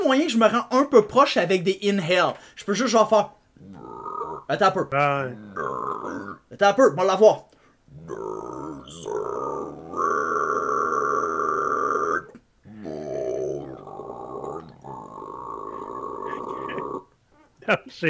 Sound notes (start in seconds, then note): 3.6 toad noises